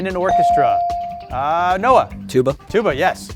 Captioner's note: bell sounding